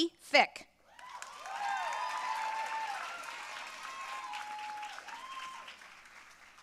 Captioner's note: audience cheering and applauding